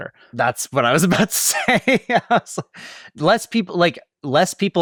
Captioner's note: laughs